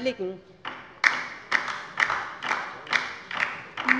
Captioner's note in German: Beifall bei der LINKEN